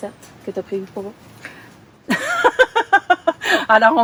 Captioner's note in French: rires